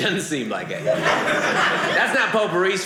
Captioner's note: audience laughing